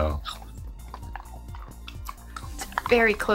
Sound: dog chewing

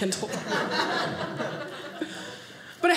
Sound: audience laughing

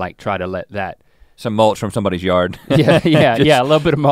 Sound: chuckles

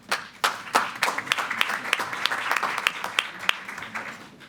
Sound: applause

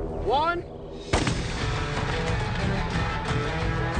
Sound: gun fires

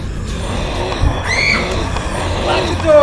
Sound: growling intensifies; Stephanie screams

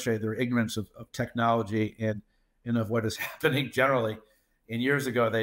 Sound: laughs

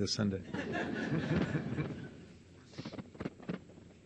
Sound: audience laughs

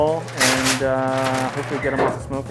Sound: paper tears

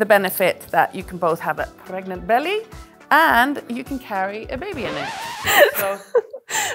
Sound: laughter

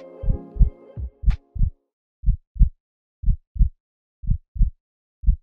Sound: heartbeat thumping

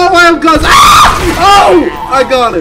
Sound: screams

